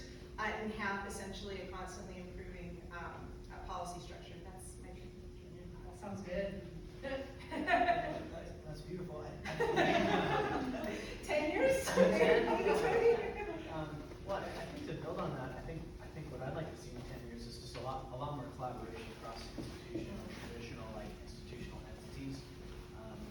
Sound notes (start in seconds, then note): 7.1 laughs; 11.6 laughing